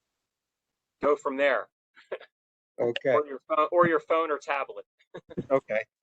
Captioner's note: laugh